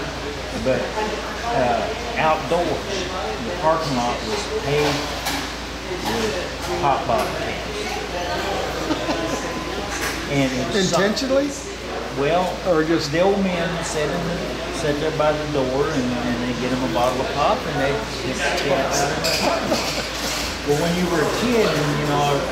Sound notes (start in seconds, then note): 8.4 laughing